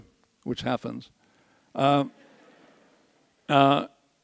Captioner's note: audience laughs